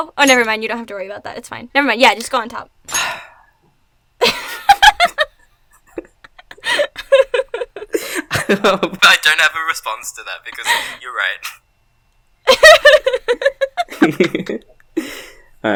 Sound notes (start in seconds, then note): 2.9 sighs; 4.3 laughs; 12.5 laughs